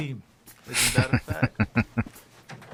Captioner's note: chuckling